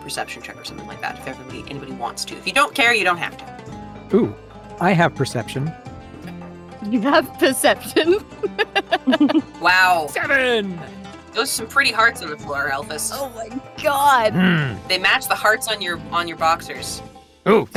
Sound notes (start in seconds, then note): 7.9 chuckles; 14.2 groans